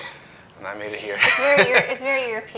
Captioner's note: laughing